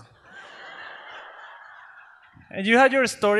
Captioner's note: audience laughs